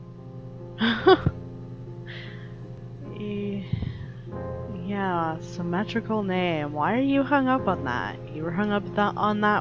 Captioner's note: laughs